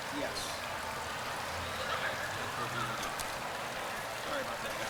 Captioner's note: murmuring